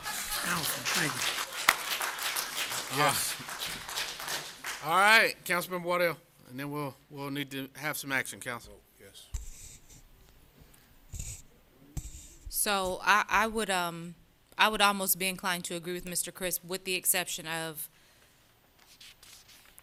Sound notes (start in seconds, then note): 5.3 applause